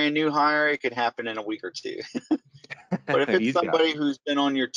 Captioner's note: laughing